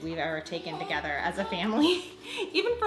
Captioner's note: laughs